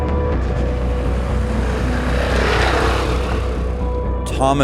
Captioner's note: motorcycle engine sputtering